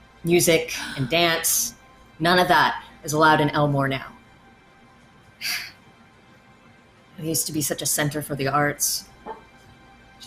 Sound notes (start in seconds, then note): 5.4 exhales loudly